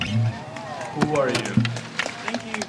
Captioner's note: applause